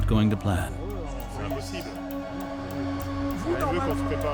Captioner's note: speaking French